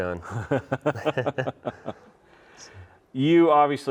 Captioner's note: both chuckling